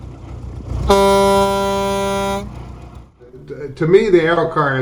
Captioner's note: horn beeping